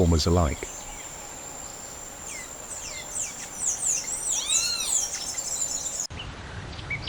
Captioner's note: birds chirping